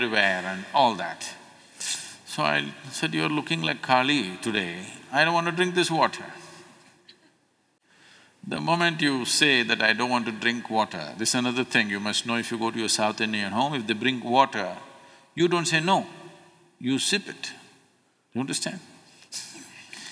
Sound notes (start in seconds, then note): 7.5 laughs